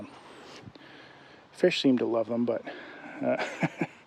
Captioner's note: laughs